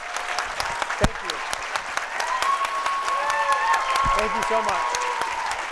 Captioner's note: audience applauding